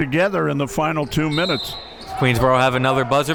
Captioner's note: whistle blows